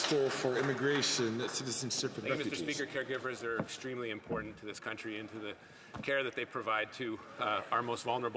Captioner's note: some Applause